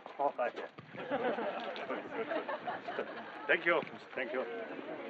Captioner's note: laughter